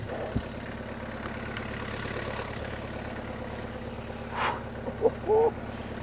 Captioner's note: engine running calmly